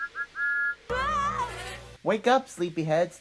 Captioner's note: Thomas' whistle blowing; Rainbow Dash screams